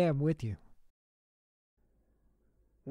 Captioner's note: brief silence